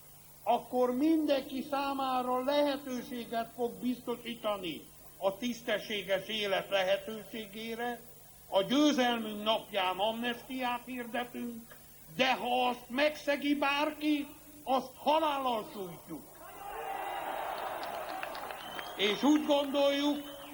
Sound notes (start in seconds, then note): 16.8 applause